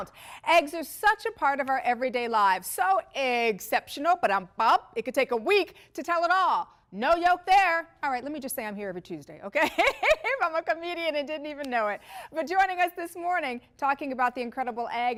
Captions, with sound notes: EGGS ARE SUCH A PART OF OUR EVERYDAY LIFE. SO, EGGCEPTIONAL--- BA-DUMP-BUMP. IT COULD TAKE A WEEK TO TELL IT ALL. NO YOKE, THERE. ALRIGHT. LET ME JUST SAY, I'M HERE EVERY TUESDAY. OK? (LAUGHTER). I'M A COMEDIAN, AND DIDN'T EVEN KNOW IT. BUT, JOINING US, THIS MORNING, TALKING ABOUT THE INCREDIBLE